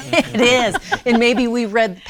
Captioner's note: laughs